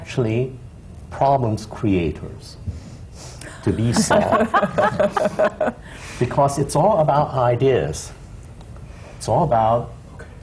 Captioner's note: laughter